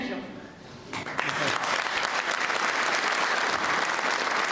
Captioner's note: applause